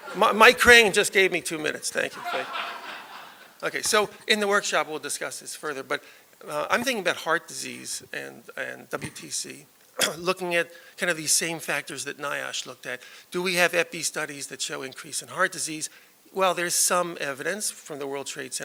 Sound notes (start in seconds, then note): 2.1 laughter